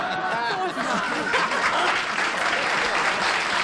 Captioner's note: laughter; applause